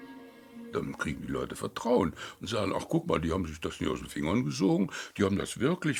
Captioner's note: speaking in foreign language